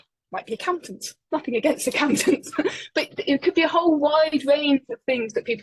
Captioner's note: laughing